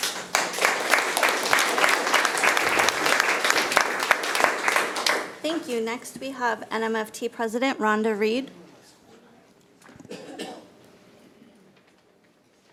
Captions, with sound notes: (audience applauding) - Thank you. Next we have NMFT President Rhonda Reid.